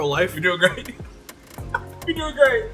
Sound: laughs

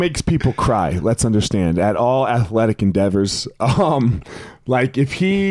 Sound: chuckles

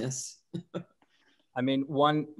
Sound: chuckle

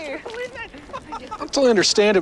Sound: cavepeople laughing

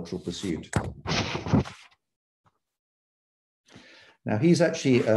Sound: paper shuffling

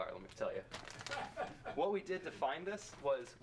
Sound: audience member laughs

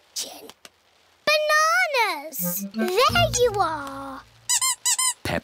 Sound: squeaking

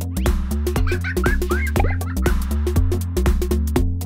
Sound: laughter

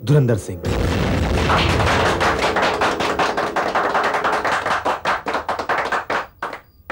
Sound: applauding

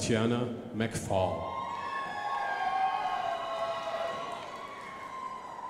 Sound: crowd applauding

